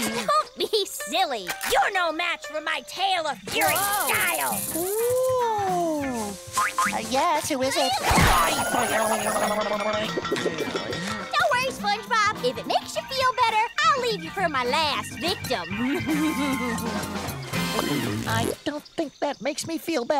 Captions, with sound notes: Don't be silly. You're no match, for my Tail of Fury style! Ooh! Uh, yes? Who is it? Hi-ya! [clattering] Don't worry, SpongeBob. If it makes you feel better, I'll leave you for my last victim. [laughing] I don't think that makes me feel better.